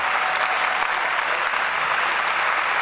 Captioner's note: applause